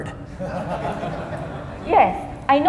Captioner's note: audience laughing